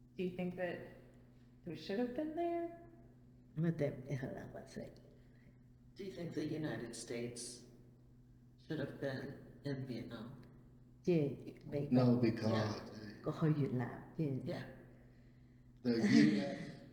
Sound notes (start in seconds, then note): 10.0 speaking Cantonese; 13.0 speaking Cantonese